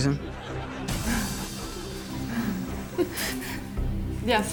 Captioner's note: audience laughs